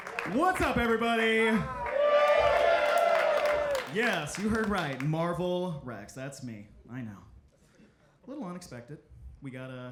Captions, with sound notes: - What's up, everybody? (audience cheering) Yes, you heard right. Marval Rex, that's me. I know. A little unexpected.